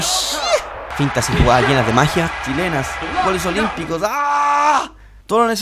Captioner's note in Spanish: grito